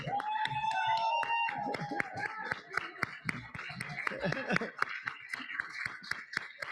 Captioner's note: audience cheering; audience applauding